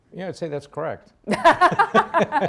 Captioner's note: laughs